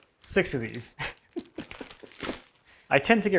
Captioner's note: laughs